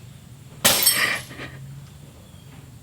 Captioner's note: glass breaks